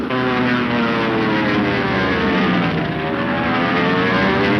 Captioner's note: engine roaring